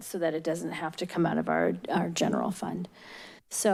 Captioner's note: none